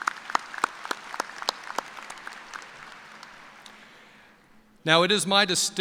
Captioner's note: applause